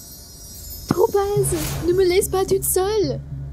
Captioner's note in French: pop